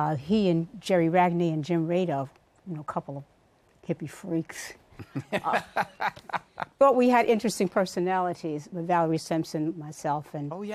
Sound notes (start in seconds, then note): 5.0 laughs